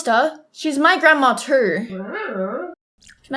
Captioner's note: Gooby noises